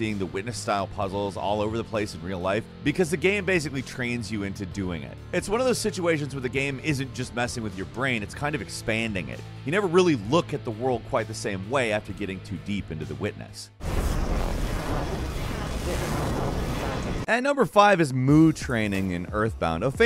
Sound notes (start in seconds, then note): 13.9 white noise blaring